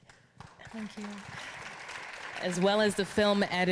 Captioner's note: audience applauding